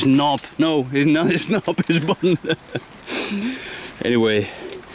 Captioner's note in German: Lachen